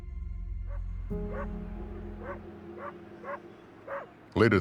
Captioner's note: dog barking